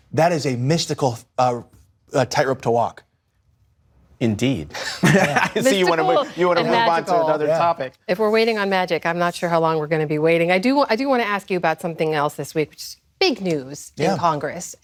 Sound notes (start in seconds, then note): 4.8 laughter